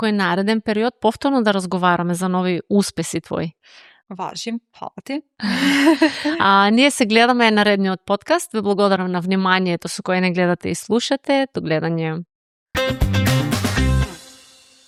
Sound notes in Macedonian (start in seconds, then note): 5.4 смеа